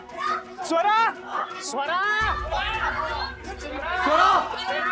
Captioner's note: indistinct chatter